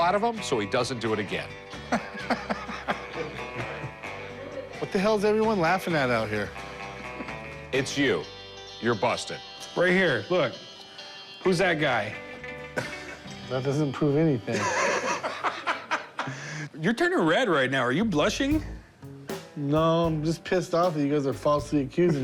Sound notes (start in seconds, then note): 1.8 laughter; 14.5 laughter